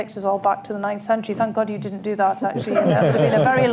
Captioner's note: laughter